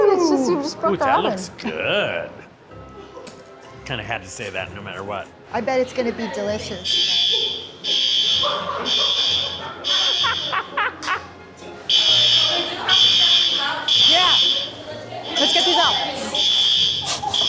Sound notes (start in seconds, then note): 6.8 smoke alarm